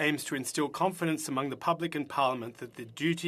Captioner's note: speaking French